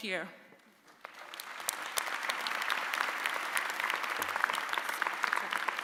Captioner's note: audience applauding